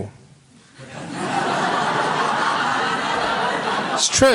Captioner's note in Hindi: हँसी